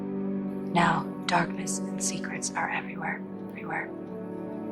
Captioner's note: voiceover; voiceover